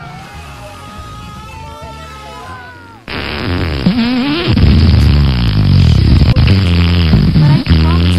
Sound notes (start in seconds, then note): 0.0 screams; 0.0 distant Farting; 3.1 farting